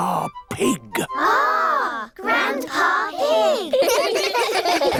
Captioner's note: giggling